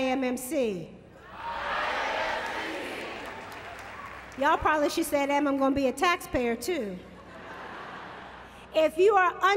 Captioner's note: laughter